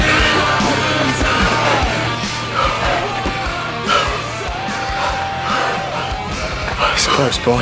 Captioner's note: breathing hard - out of breath